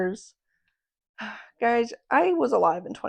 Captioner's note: sigh